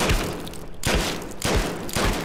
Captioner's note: bang